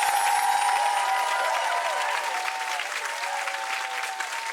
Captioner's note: audience cheering; audience clapping